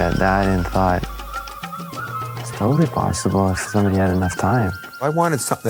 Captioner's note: monkey sounds